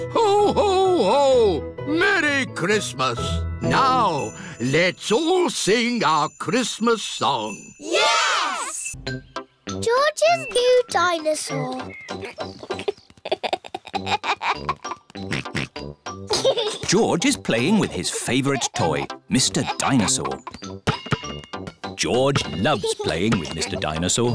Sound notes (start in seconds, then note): 13.2 giggles; 15.2 oinks